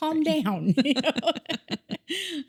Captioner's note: laughing